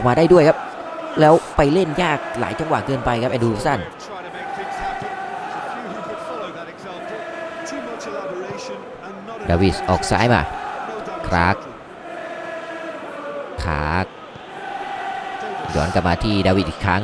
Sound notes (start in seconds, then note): 13.6 applause